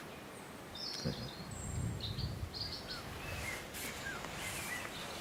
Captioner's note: birds chirping